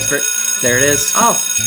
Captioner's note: bell rings